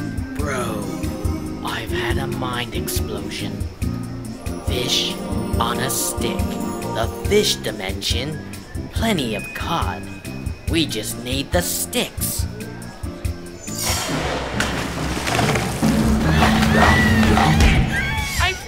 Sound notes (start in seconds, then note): 13.9 splash; 15.6 girl screaming in the background; 15.6 shark Chomping